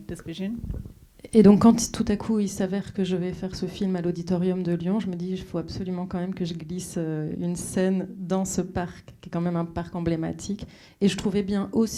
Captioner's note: speaking French